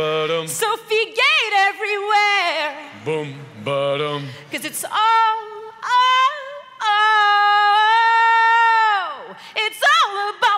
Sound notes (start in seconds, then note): none